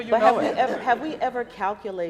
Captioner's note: laughing